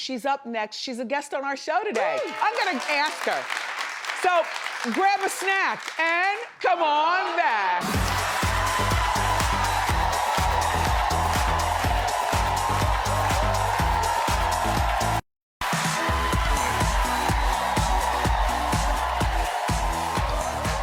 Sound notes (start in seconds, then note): 2.0 audience cheers and claps; 7.2 audience cheering; 7.8 energetic music; 15.6 audience cheering; 15.6 energetic music